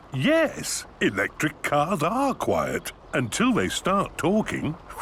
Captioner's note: none